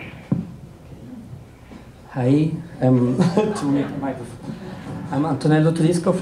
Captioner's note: laughter